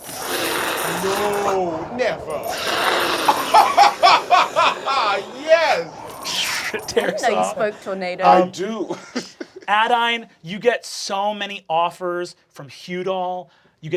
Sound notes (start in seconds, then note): 0.1 imitating tornado; 2.5 imitating tornado; 3.7 laughing uproariously